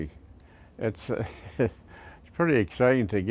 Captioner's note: laughs